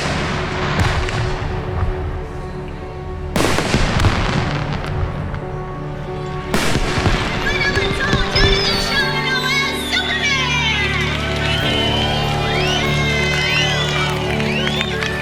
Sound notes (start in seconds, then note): 1.8 fireworks booming; 3.4 bright music; 4.7 fireworks booming